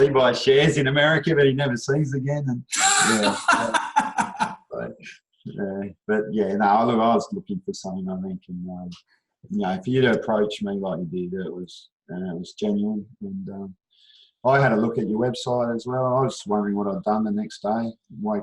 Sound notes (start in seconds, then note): 2.8 laughs loudly